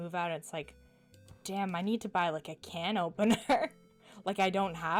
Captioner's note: chuckles